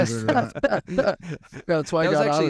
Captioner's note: laughing